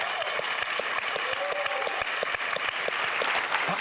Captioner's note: applause